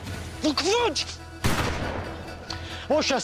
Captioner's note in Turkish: Silah sesi